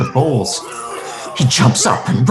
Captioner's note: chefs vomiting